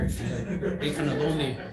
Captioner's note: committee members laughing